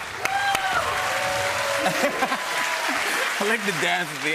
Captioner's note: cheers and applause